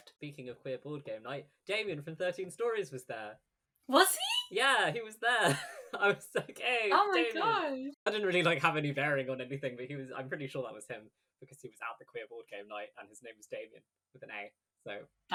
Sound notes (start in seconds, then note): 5.3 laughing